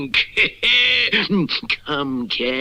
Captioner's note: Simon Bar Sinister Laughs